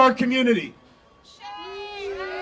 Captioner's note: audience cheering